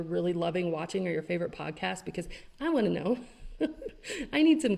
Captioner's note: laughs